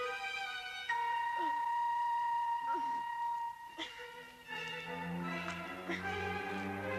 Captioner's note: Carrie grunting; dramatic music; Carrie grunting